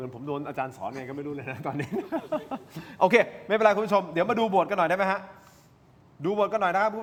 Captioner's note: laughs